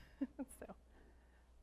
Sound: laughs

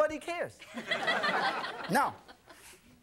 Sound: audience laughing

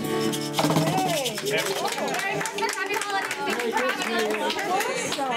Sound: applause

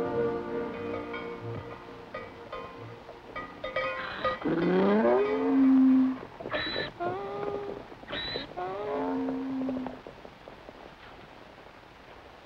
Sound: bell dinging

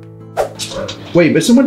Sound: screen swooshes

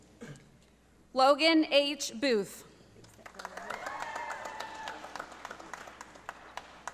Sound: audience applauding

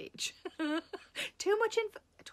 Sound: Sarah laughing

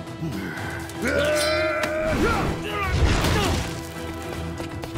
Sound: grunting

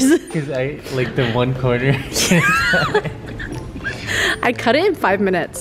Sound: laughing

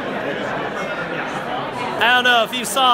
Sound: crowd noise

